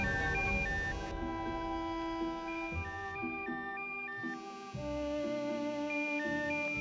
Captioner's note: somber music; phone beeping